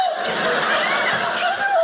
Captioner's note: audience laughing